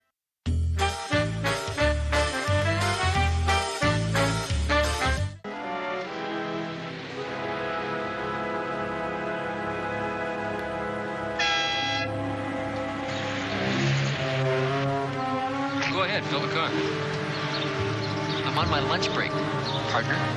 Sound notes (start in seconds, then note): 11.7 car horn